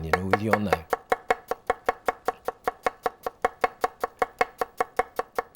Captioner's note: knife chopping